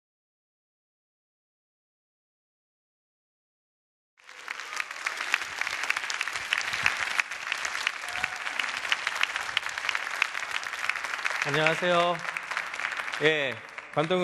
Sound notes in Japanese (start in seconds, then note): 4.2 拍手